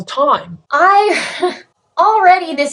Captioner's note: chuckles